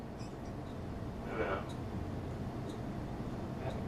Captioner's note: murmuring